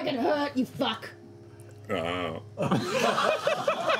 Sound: deadpan; laughter

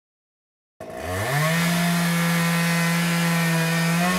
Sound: chainsaw buzzing

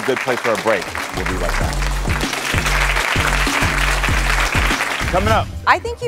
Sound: audience applauds

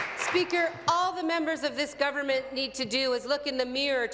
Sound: applause

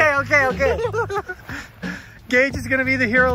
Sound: laughs

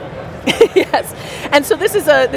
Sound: laughs

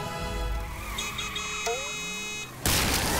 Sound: honking

